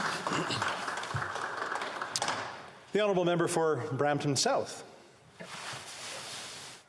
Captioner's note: applause